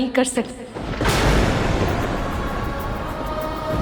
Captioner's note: thundering